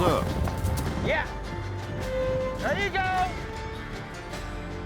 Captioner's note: hoofbeats; cowboys shout encouragement